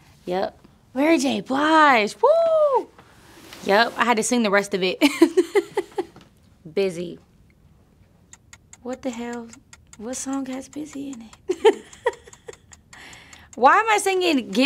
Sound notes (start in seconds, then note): 11.4 nervous laughter